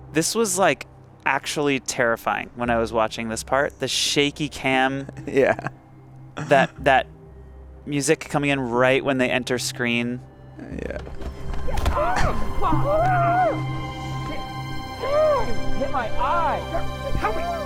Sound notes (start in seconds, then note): 6.4 chuckles; 12.0 person grunting; 12.1 soft ominous music